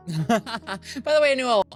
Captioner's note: laughs